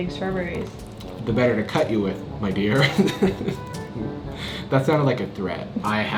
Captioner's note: laughs